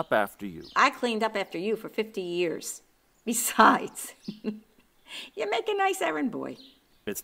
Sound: laughing

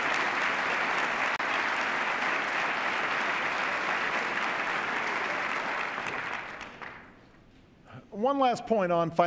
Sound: applause

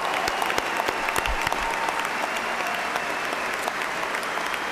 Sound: cheers and applause

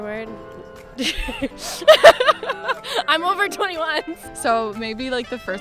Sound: laughter

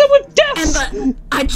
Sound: Cynder voice

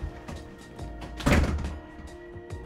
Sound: door closes

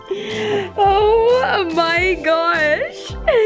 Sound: laughs

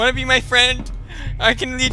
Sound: gasp!

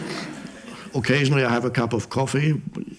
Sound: audience laughs

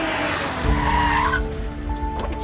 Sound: brakes squeal

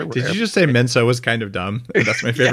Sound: laughs

